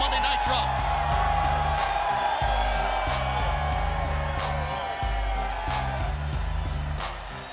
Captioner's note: crowd cheering continues; light beat music